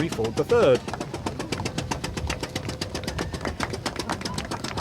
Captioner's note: sputtering; clapping